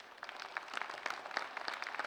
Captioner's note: applause